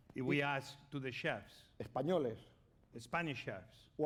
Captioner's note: speaking spanish